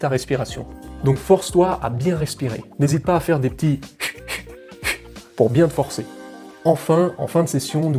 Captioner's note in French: pfft - pfft